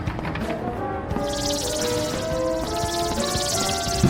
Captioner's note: leeches screeching